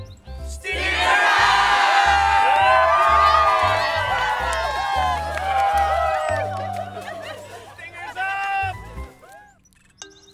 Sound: cheering

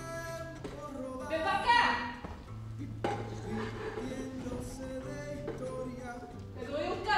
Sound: sings in foreign language; speaks in foreign language

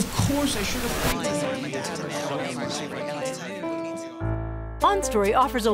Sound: multiple voices chattering

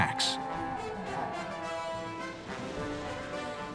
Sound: siren blaring

